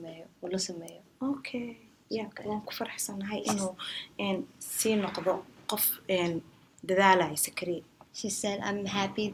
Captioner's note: speaks in Somali